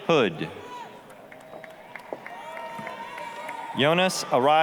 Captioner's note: applause, cheering